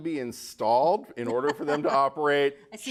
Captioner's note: laughing